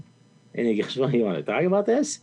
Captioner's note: chuckles